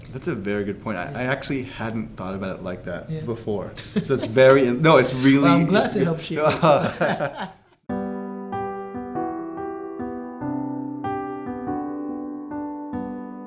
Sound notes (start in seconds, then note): 6.4 laughter